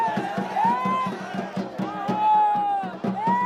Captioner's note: cheers